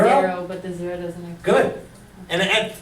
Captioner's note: voiceover